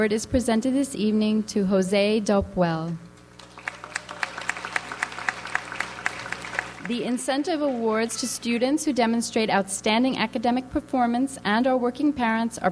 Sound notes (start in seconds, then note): 3.3 audience applauds